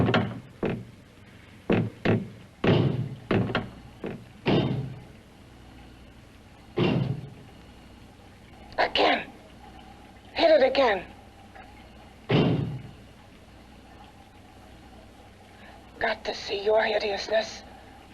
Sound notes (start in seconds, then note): 2.6 banging; 12.3 door banging